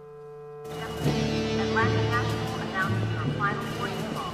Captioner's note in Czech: Žena v rozhlase